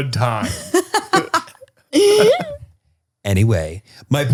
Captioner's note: laughing